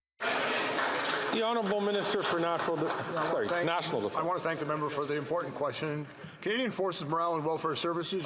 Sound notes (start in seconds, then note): 4.3 some Applause